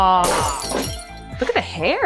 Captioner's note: glass shattering